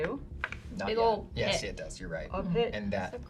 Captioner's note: pat